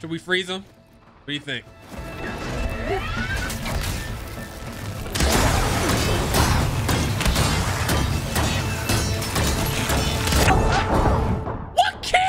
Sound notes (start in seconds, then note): 4.9 arrow shooting; 6.3 axe hitting metal